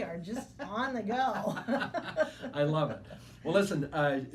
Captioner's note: laughing